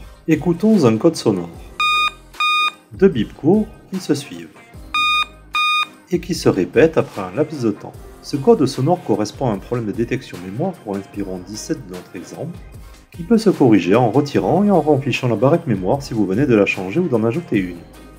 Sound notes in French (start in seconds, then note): 1.8 1 beep; 4.9 1 beep